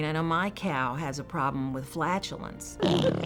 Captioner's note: farting